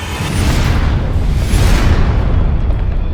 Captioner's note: explosions